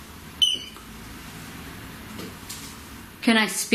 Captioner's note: beep